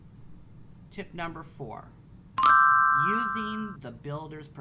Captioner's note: chiming